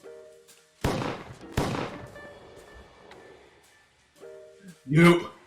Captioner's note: two Gunshots Fire